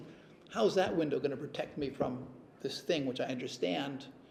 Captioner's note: none